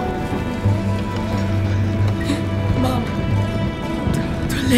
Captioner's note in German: seufzend